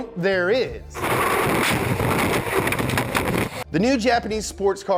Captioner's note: water spurting